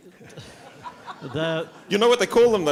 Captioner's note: laughter